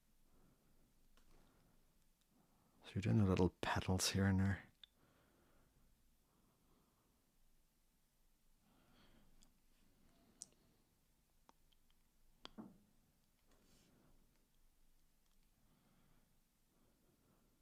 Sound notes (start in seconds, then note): 4.7 silence